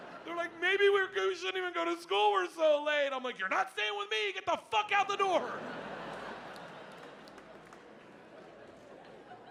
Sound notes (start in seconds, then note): 5.4 audience laughing